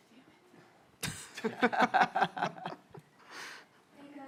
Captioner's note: laughter